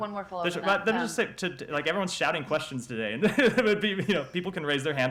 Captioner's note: laughter